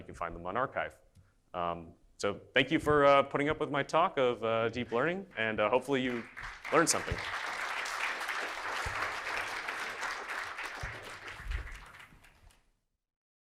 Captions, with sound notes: you can find them on Archive. So thank you for putting up with my talk of Deep Learning and hopefully you've learned something. (audience applauding)